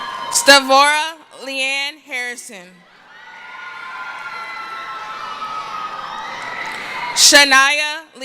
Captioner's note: cheering; cheering; screaming